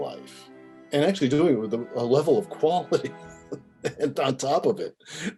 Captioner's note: laughing